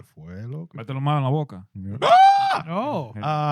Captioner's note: screams